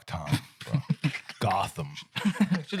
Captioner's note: laughing